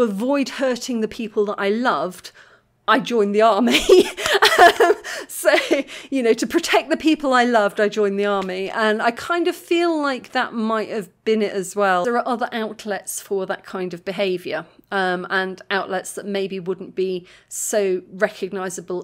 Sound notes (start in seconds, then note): 3.9 laughing